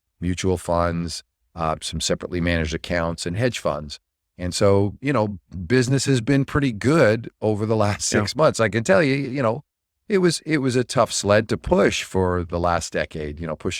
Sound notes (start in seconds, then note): 7.8 laughs